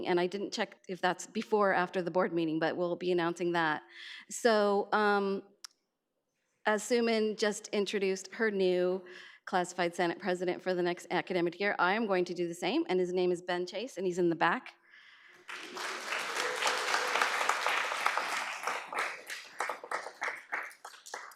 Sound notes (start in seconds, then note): 15.4 audience applauds